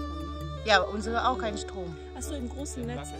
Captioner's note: speaking German